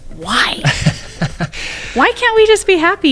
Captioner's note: laughing